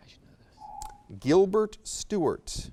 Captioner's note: alarm echoes